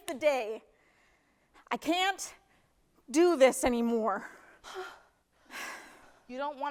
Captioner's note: sharp exhale